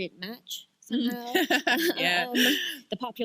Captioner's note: chuckle